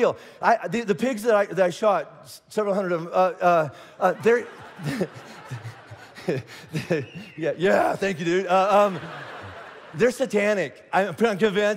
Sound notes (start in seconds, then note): 4.0 congregation laughing; 6.8 person whistling